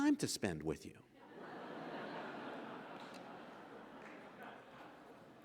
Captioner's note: audience laughs